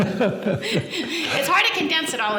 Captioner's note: laughing